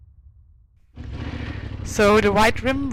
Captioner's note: bike motor revving